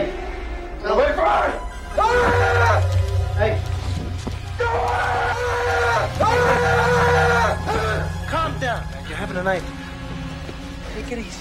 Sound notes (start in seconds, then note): 2.5 yelling